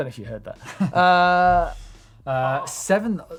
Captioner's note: laughing